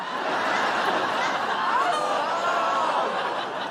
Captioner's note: laughter